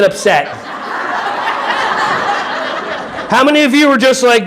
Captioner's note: audience laughing